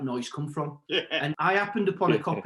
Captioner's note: laughs